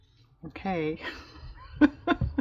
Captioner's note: laughs